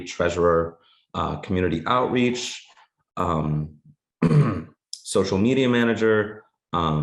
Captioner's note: clears throat